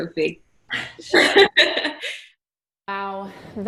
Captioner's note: laughing